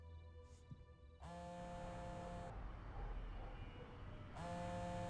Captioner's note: phone vibrating